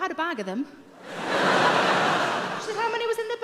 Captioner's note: audience laughing